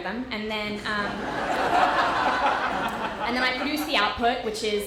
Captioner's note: audience laughter